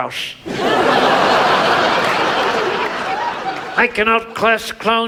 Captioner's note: audience laughs